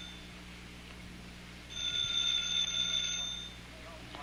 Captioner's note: telephone ringing